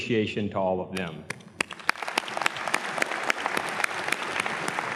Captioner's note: all clapping